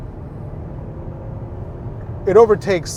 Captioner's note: car engine revving